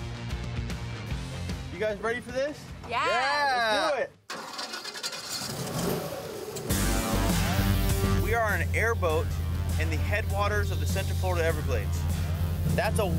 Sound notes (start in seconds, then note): 0.0 upbeat music; 4.7 engine revving; 4.7 upbeat music